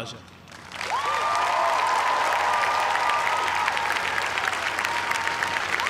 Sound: cheers and applause

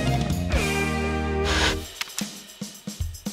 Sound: Static

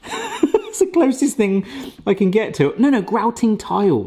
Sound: chuckles

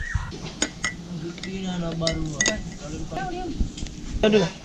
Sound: spoon clinking in glass

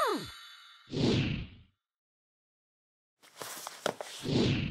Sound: pictures woosh

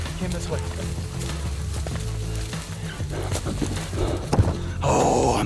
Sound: leaves rustling

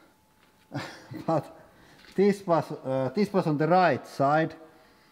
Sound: laughs

